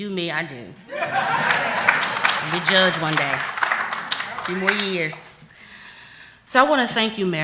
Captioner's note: laughter